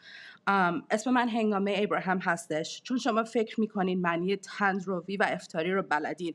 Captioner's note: speaking in foreign language